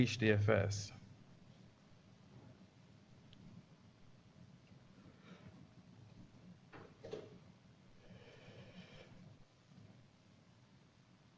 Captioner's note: pause